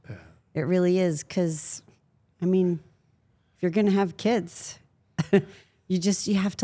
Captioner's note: chuckles